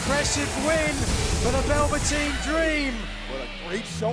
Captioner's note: bell ringing